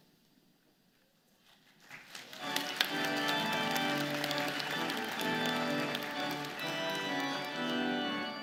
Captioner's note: applause